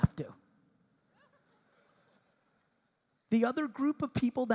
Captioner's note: audience laughing